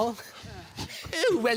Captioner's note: scraping